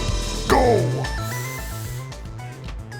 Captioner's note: deep breathe